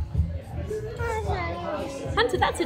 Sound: babbling

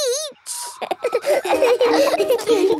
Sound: all laughing

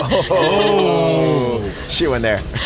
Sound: everyone oohs

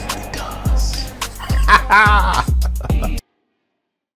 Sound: laughing

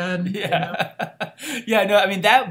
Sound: laughs

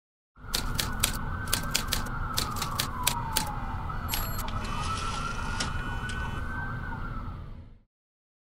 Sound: city and Typewriter Sounds

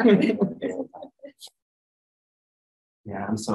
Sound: laughter

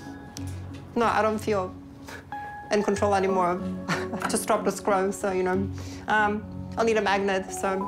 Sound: chuckles

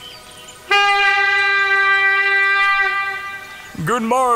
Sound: A hunting horn is blown

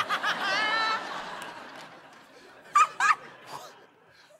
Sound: laughter

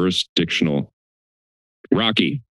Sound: silence

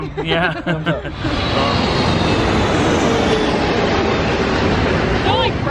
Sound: plane flying loudly

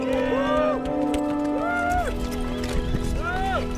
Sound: cheers

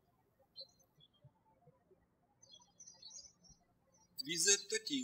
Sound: birds chirping

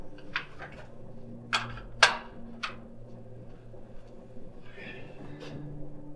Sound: door clicking shut

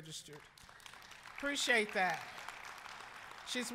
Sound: applause

